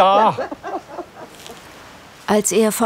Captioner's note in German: Lachen